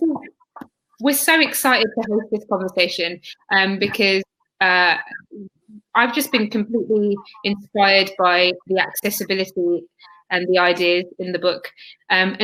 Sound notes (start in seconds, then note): 4.7 erm